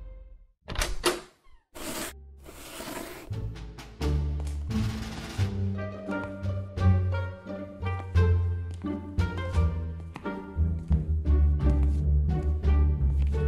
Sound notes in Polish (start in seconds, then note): 0.7 dźwięk otwieranych drzwi; 2.4 dźwięk przesuwanej książki; 2.4 dźwięk wysuwanej książki; 3.9 w tle spokojna muzyka